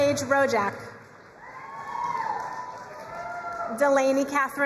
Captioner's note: crowd cheering and applauding